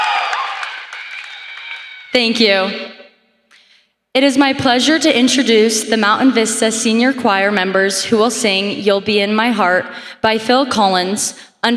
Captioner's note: applause